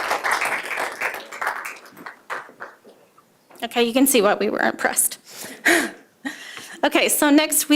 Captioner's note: applause